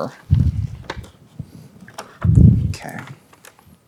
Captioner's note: papers rustling